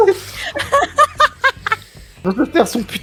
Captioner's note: general laugh